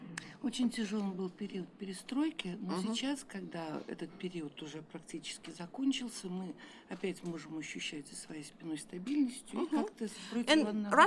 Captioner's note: speaking russian